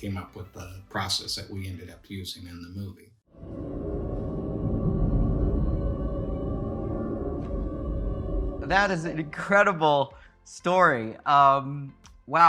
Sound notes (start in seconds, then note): 3.4 eerie vocal sounds